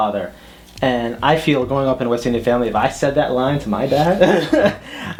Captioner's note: both laugh